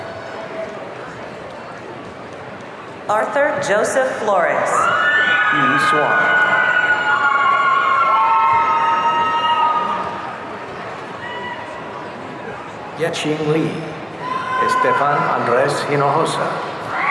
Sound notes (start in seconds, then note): 6.9 audience cheering